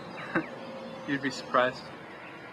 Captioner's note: Rob laughs